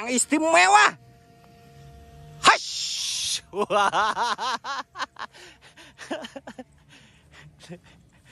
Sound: laughs

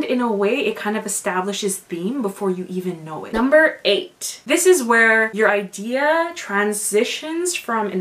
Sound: none

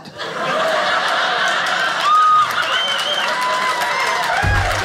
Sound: audience applauding

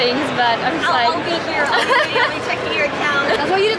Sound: laughs

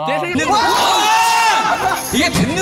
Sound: wah

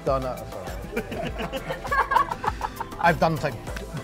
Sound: laughs

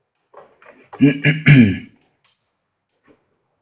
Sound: clears throat

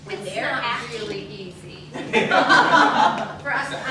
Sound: laughter

